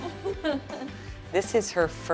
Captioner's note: artist laughing